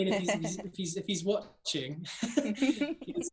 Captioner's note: laugh